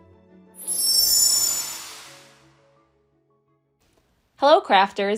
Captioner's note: logo whooshing